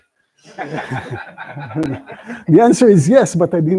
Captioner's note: laughter